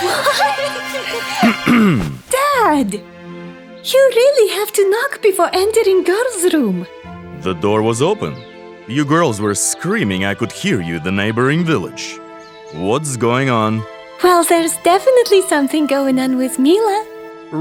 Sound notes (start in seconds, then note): 1.4 Vladeemir clears his throat